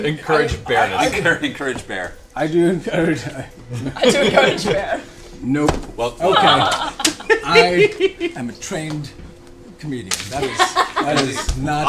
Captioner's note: laughs; laughing